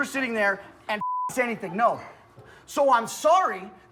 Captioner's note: beep